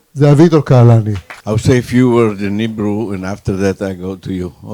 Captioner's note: applause